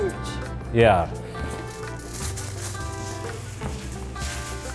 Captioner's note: foil crinkling